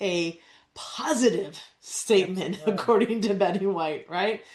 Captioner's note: laughs